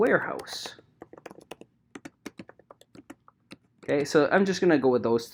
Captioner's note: keyboard clicking